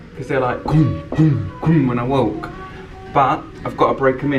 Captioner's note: imitates heavy footsteps